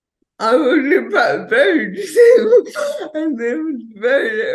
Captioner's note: chuckles